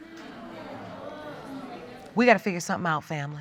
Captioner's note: audience exclaims